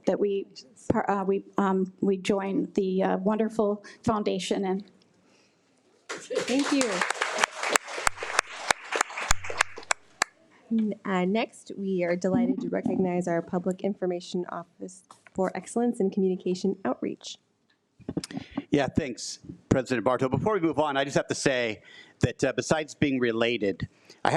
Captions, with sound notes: that we join the wonderful foundation in. - Thank you. (attendees applaud) Next, we are delighted to recognize our Public Information Office for Excellence in Communication Outreach. - Yeah, thanks, President Barto. Before we move on, I just have to say that besides being related,